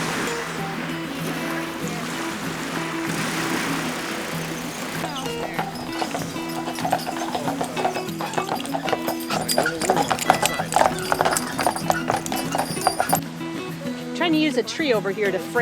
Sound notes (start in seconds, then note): 5.8 horse shoes clopping